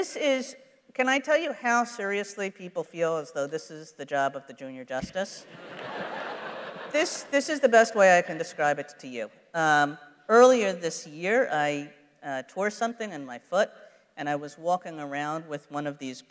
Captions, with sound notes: This is, can I tell you how seriously people feel this is the job of the junior Justice? [laughter] This is the best way I can describe it to you. Earlier this year, I tore something in my foot, and I was walking around with one of these boots,